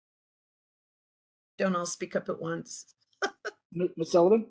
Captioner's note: laugh